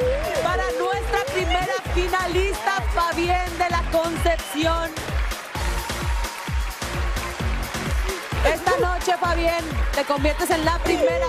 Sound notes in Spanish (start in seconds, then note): 4.0 aplausos